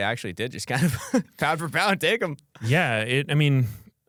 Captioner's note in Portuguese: risos